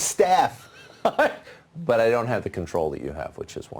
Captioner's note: laughs